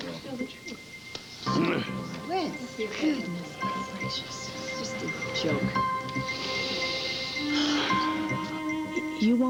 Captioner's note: grunts